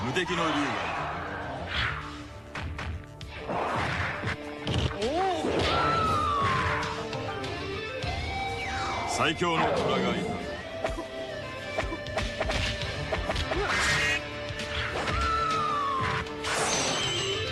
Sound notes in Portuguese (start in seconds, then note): 0.0 grito; 5.3 grito